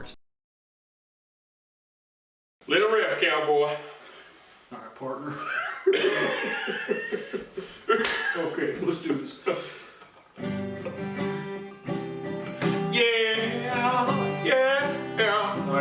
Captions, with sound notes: Let it riff, cowboy! Alright, partner. *WHEEZE* *SLAP* Okay, let's do this. Yeah~ Ye-yeah~